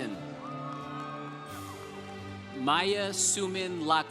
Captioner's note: congregation applauding